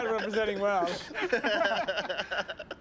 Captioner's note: laughter